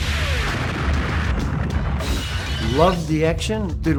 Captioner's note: machine gun firing; explosion